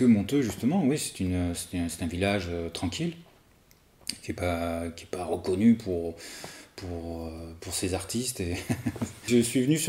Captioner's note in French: rires